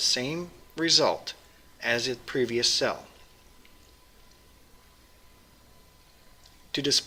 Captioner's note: pause